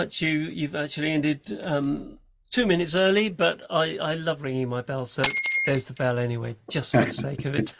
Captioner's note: bell rings